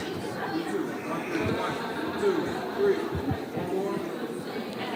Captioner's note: audience murmuring